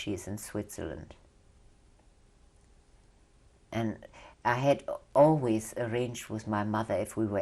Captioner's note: pauses for 3 seconds